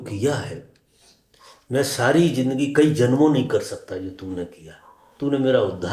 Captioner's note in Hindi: नाक से की जाने वाली आवाज़